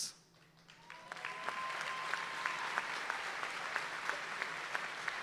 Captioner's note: audience applauds and cheers